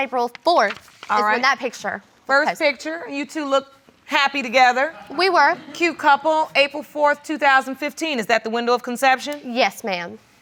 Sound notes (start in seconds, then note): 1.9 audience members laughing